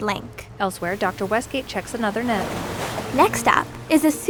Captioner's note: water splashing